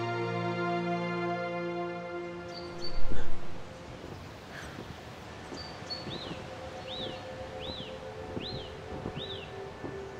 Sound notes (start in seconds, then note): 0.2 birds chirping and trees rustling fades in; 4.6 light footsteps crunch on snow